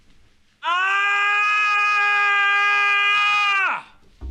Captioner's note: screaming